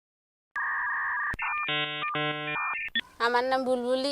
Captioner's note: modem connecting sound; speaking Bengali